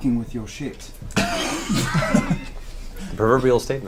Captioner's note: all laugh